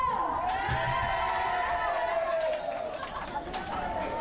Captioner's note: cheering